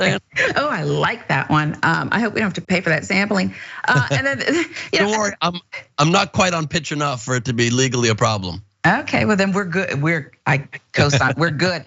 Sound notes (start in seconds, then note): 0.0 laugh; 3.8 laugh